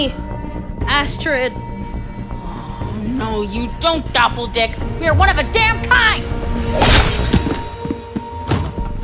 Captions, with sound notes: Astrid! - Oh, no, you don't, doppeldick! We are one of a damn kind! [Slicing] [Thuds]